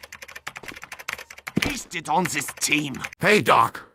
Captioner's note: typing noises; Medic enters the room while angerly mumbling; typing stops